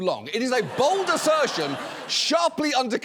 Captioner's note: audience laughs